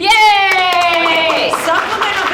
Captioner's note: audience applauding